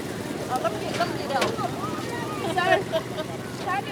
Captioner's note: laughs